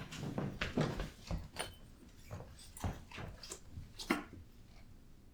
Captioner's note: footsteps distance